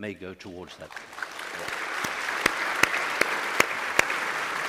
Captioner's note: applause